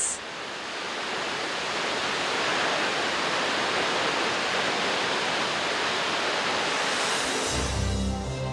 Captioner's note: water falls; magical music background